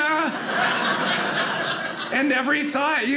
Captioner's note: audience laughing